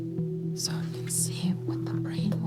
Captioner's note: whispers